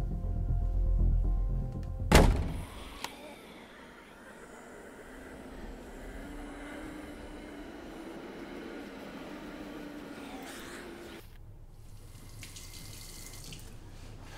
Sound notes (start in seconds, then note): 2.6 zombies droning